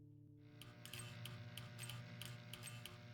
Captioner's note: electrical buzzing